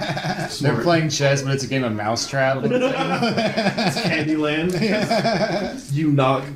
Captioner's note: laughs; laughs